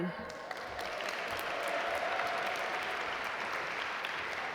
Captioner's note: audience applaud